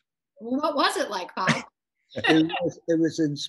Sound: laughing

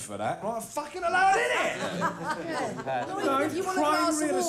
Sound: laughing

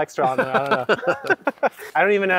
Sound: both laugh

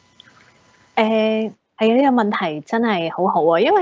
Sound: Cantonese

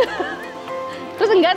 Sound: chuckled

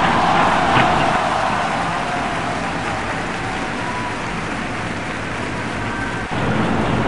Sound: cheering

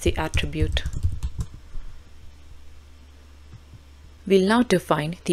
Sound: keyboard clacking

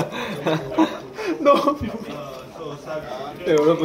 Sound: laughing

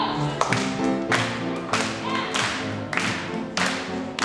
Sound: rhythmic clapping

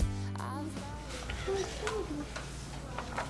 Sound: kids reading

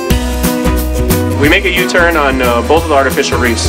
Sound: voiceover

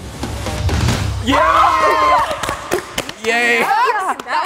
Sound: suspenseful music; shouting and clapping

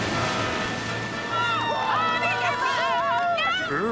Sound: screaming

